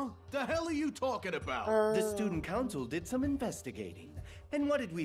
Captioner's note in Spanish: Sonido Zombie